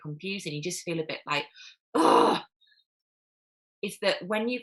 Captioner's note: groans